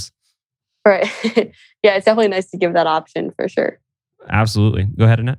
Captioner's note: laughs